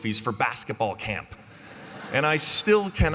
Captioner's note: laughter